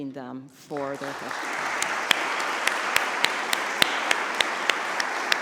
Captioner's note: audience applauds